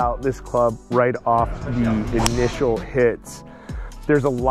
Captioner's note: golf club striking